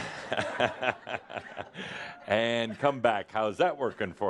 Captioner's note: Adamus chuckles